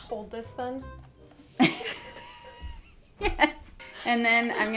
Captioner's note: both laugh